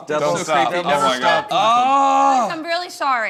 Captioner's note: frustrated moan